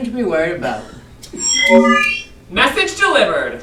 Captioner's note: digital zing; robot voice